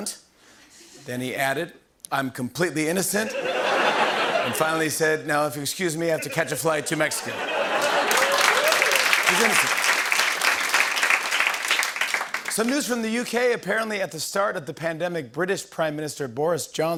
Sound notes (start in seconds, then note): 3.2 laughter; 6.2 laughter, cheering, applause